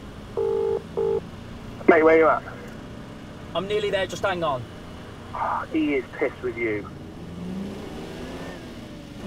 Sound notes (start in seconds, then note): 0.0 phone ringing; 1.8 male voice on phone; 5.3 male voice on phone; 7.5 car accelerating